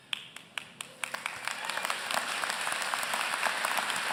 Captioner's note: applause